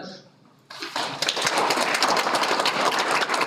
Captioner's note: Aplodit